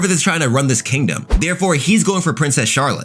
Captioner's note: air whooshing